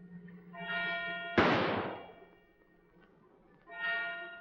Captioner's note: bell tolling; gunshot; bell tolling